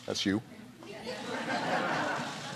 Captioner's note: laughter